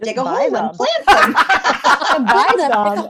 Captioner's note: laughter